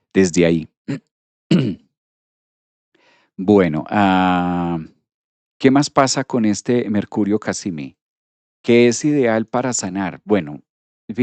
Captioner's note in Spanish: carraspeo